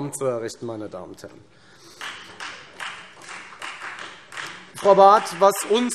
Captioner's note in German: Beifall Freie Demokraten